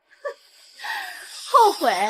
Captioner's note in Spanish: resopla